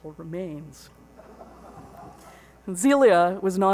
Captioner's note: audience laughs